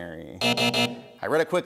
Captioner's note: buzzing